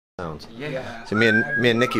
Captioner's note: background chatter and whistles